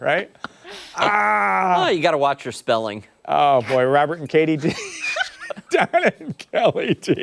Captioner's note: laughter